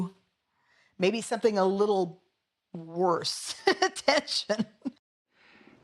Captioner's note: laugh